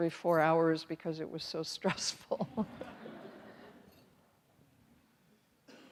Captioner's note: all chuckling